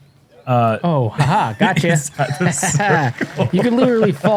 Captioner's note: laughter